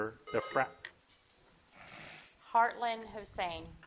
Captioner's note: buzzer dings